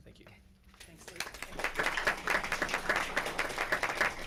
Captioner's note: crowd applauding